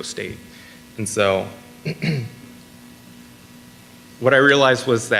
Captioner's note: clears throat